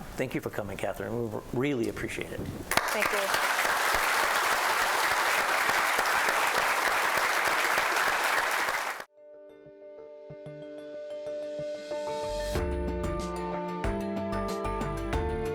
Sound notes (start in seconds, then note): 2.7 applause